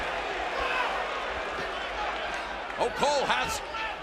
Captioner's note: crowd cheering